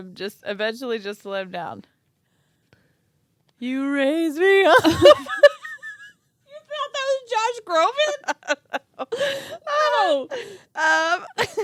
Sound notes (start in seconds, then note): 4.7 laughing; 7.7 laughing